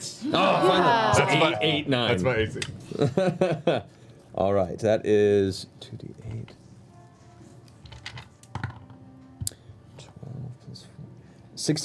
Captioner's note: laughs